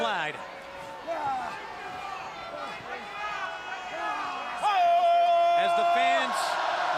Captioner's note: crowd chatter